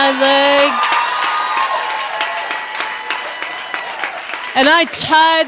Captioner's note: audience applauding